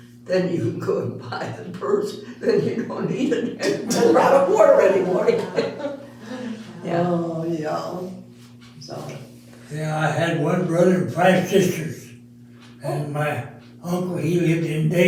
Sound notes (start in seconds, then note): 8.7 all Laughing